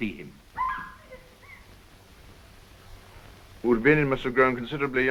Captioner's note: girl laughing